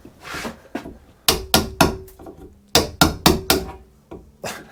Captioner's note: hammering